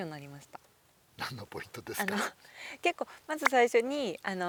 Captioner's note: laughs